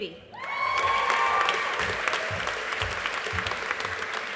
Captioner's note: audience applauding